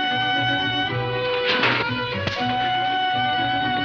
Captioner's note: clanking